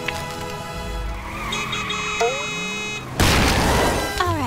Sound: honking

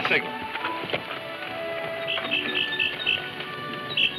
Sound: birds chirping

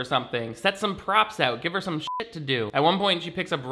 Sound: beep

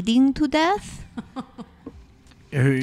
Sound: laughs

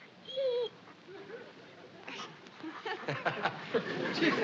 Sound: whines; both laughing

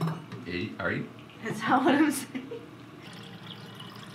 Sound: while laughing

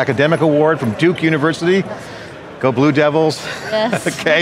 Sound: chuckles

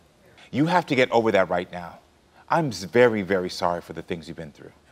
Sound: none

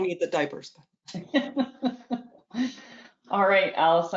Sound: laughs

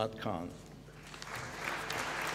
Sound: applause

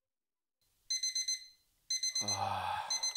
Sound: alarm Beeps Again; sighs again

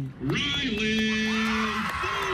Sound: nats/cheering

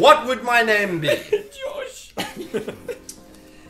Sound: laughing

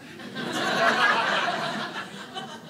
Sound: audience laughing

